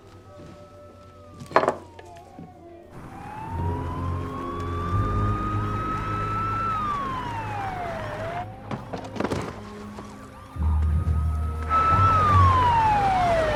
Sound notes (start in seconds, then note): 3.1 sirens wailing